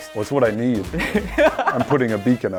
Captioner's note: laughing